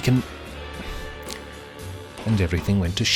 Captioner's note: sighs